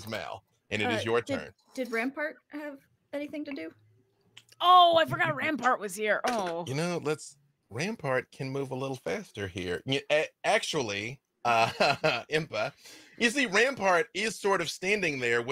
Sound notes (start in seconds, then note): 11.5 laughs